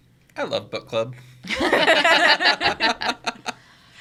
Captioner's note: group laughs